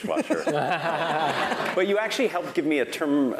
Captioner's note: laugh